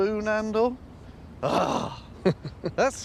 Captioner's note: chuckles